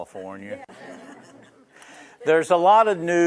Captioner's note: laughing